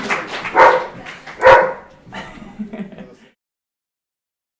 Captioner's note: dog barks again as applause ends, laughs